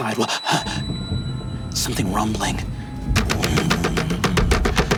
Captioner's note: gasps; distant rumbling resounds; Brennan mimics rumbling